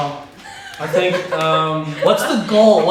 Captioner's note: laughing